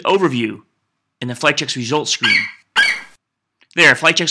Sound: FlightCheck eagle screeches

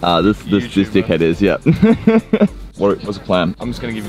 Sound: laughs

